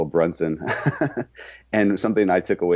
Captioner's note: laughing